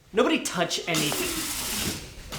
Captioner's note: garbage disposal starts